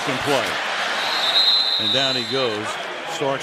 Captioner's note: whistles